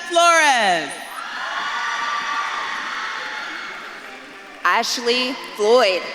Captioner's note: audience claps and cheers